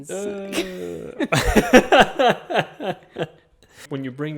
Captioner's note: chuckles